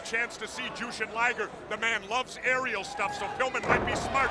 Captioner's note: body thudding